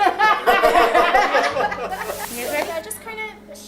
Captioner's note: laughing